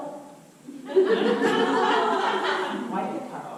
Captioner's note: audience laughter